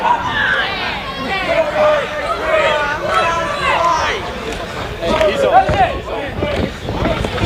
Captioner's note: crowd noise